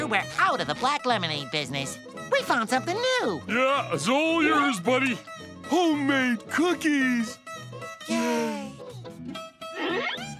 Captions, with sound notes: we're out of the black lemonade business. We found something new. Yeah, it's all yours, buddy. Homemade cookies. [whispers] Yay.